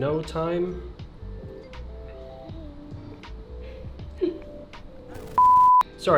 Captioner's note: chuckles